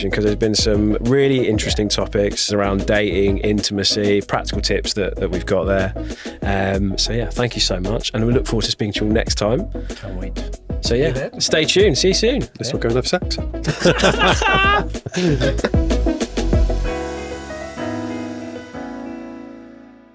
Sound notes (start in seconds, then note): 13.6 all laugh; 15.2 upbeat music